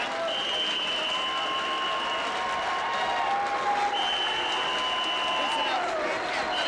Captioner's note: crowd cheering; whistle blowing